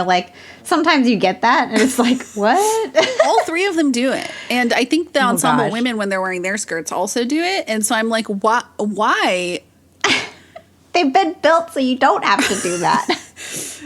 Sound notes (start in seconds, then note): 10.0 both laugh